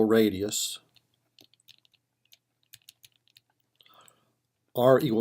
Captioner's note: typing